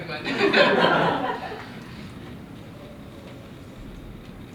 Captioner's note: laughter